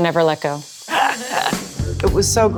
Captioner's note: laughs